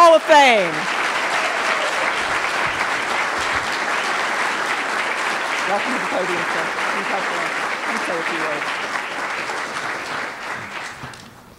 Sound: applause

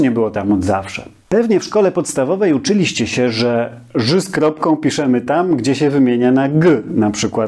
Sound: in Polish

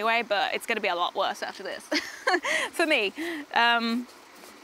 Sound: laughs

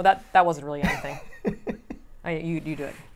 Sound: laughs

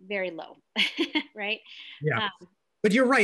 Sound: laughing

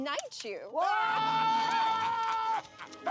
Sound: both scream

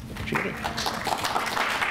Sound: applause

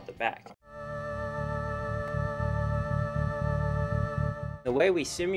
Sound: sound Effects

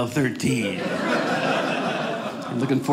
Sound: audience laughing

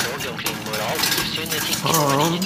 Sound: clattering

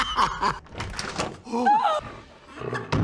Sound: gasps

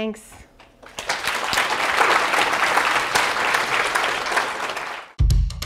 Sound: applause

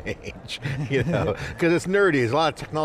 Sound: laughing

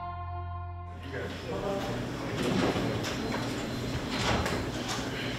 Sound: people chattering

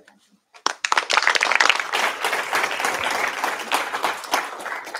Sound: applause

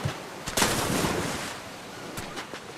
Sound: fall into water

